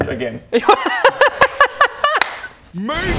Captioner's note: excited giggles